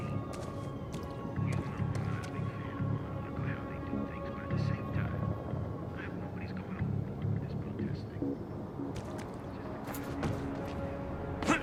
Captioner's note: on the radio; on the radio